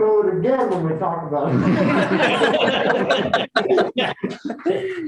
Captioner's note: laughter